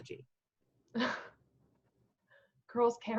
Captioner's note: laughing